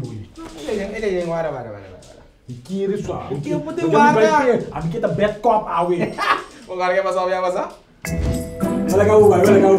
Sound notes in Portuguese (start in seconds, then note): 7.8 thud